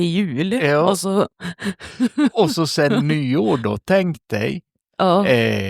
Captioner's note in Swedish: skratt